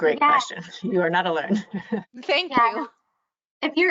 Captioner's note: chuckling